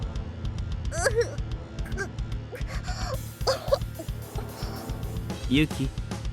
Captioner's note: cough